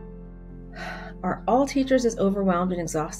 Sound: sighs

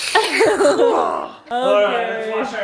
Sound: giggles

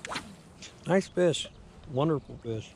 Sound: rod whipping

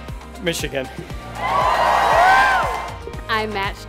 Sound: audience cheers

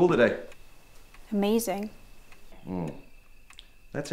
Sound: sarcastic tone

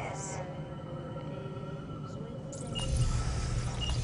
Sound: computer beeps

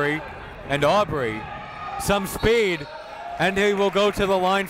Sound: whistle blows

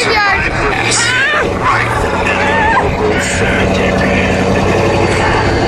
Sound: guide talking over intercom

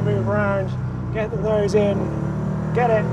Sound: engine rumbles

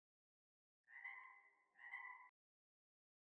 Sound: frog noises

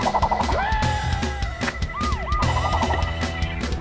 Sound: siren wails

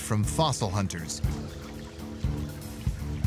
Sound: stream gurgling

